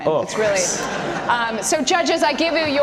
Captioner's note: audience laughter